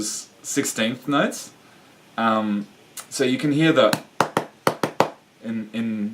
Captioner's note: chest drumming